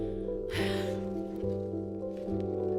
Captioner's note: sighs